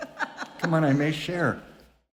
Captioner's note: laughing